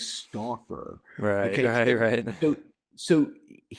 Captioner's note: laughs